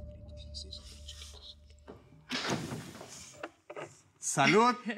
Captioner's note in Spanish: Portazo; Susurros